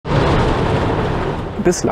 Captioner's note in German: Donnergrollen